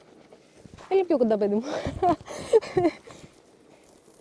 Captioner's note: speaking greek